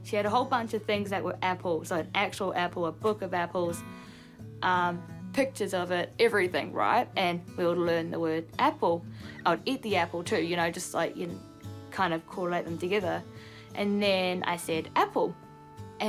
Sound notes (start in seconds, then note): none